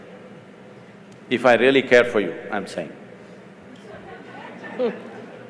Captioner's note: laughter; 笑聲